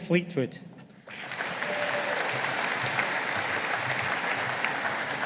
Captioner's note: audience applauding